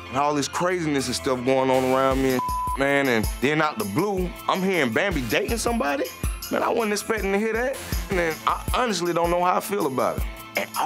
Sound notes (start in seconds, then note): 2.4 beep